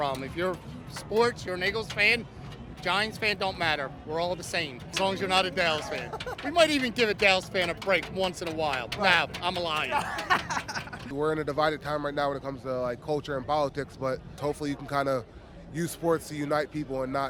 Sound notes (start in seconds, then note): 9.8 laughs